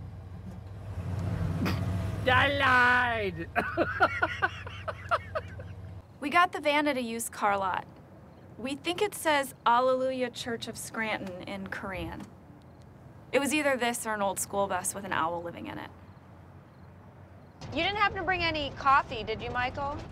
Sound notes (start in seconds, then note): 1.1 snorts; 3.4 laughs